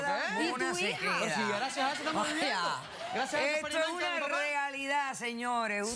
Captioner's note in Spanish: risas